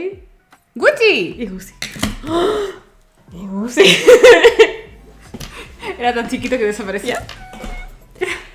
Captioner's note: gasp